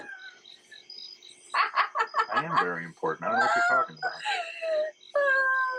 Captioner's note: laughing